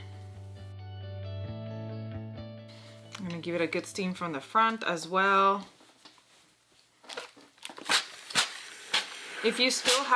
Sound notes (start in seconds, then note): 0.1 upbeat music; 8.0 steam sizzles